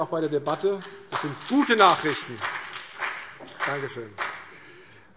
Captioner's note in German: Vereinzelter Beifall BÜNDNIS 90/DIE GRÜNEN